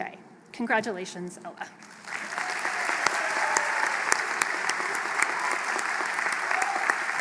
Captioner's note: applause